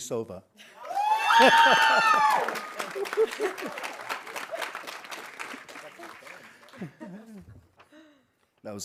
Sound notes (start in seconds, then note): 0.8 audience cheering; 0.8 audience applauding